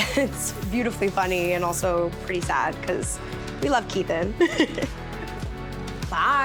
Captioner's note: laughs